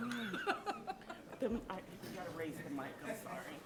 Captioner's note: light laughter